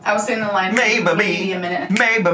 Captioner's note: snaps fingers